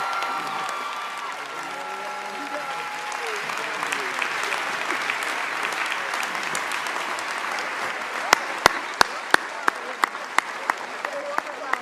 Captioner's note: cheers and applause